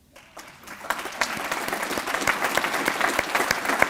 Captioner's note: applause